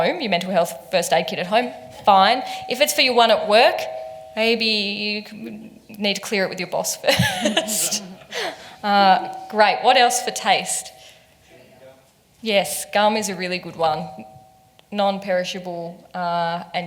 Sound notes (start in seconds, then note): 7.0 laughs